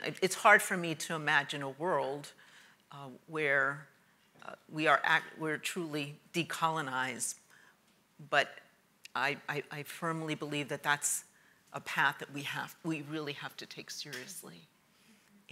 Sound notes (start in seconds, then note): none